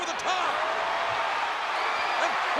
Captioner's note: audience cheering